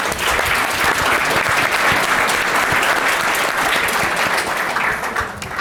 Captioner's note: audience applause